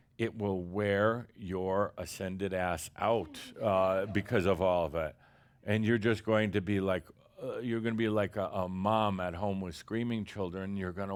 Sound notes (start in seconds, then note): 3.1 a couple of chuckles